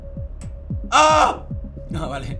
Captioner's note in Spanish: Grita